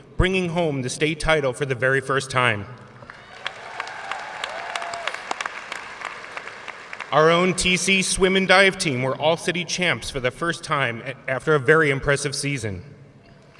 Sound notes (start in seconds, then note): 3.0 audience cheering and applauding